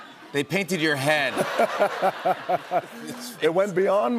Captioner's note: laughter